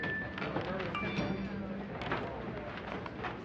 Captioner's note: phone alert